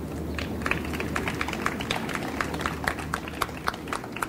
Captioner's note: audience applauds